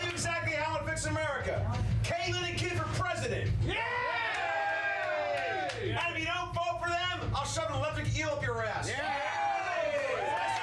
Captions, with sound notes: - I'LL TELL YOU EXACTLY HOW I'D FIX AMERICA. CAITLYN AND KIDD FOR PRESIDENT! [AUDIENCE CHEERING] - AND IF YOU DON'T VOTE FOR THEM, I'LL SHOVE AN ELECTRIC EEL UP YOUR ASS! [Audience cheers]